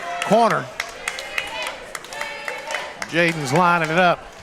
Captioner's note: crowd cheering